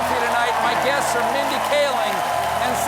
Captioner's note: cheers and applause